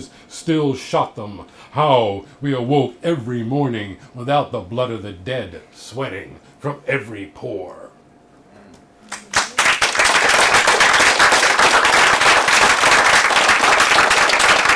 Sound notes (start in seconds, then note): 9.1 applause